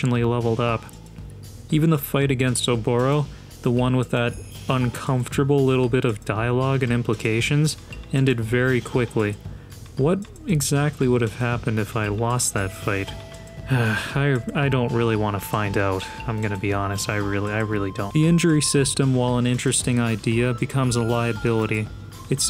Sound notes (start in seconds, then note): 13.7 sigh